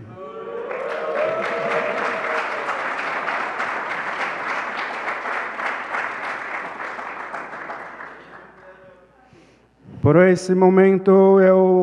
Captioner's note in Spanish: Ponente habla en portugués; Aplausos; Ponente habla en portugués